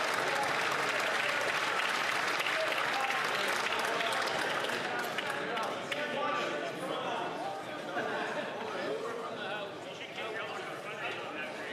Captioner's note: some Applause